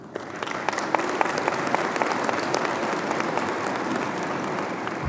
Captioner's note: audience applauding